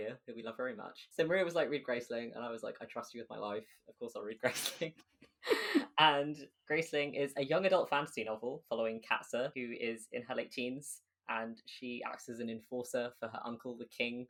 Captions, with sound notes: who we love very much. So Maria was like, "Read Graceling," and I was like, "I trust you with my life. Of course, I'll read Graceling." (Laughing) And Graceling is a young adult fantasy novel following Katsa who is in her late teens, and she acts as an enforcer for her uncle, the King,